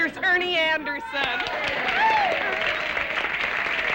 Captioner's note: applause